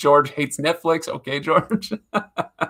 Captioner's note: laughs